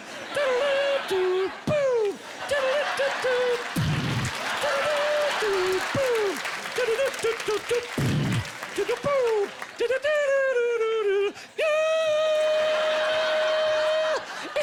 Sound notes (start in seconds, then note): 2.7 humming; 6.7 humming; 13.5 humming